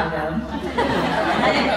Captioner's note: laughs